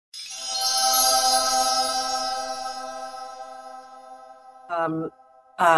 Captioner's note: chimes